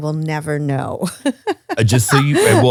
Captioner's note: laughs